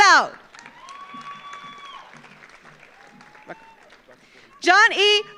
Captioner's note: audience applauds; audience cheers